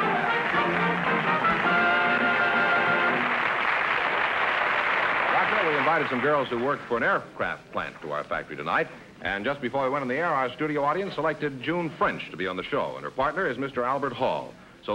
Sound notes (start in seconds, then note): 3.2 applause